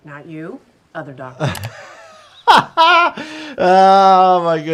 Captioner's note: laughs